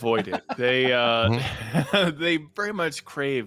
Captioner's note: laughs